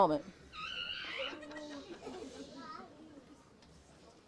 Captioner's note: audience chatters